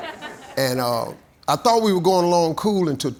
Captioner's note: audience applauding